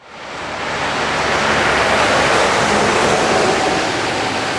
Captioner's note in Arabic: أصوات حركة المرور